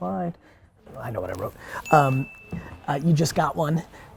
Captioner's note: bell dings